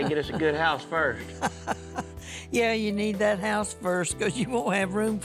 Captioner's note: chuckles